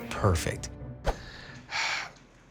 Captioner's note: sighs